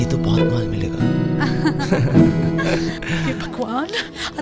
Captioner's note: Both laughing